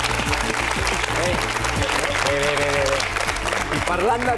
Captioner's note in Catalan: aplaudiments